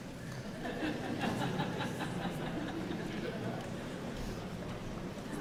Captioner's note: audience members laughing